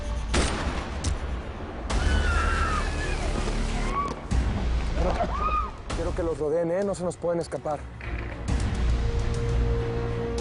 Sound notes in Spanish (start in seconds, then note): 0.3 Disparos; 2.0 Gritos